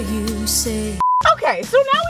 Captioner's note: high pitched beep